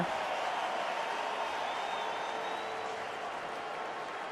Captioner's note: crowd cheering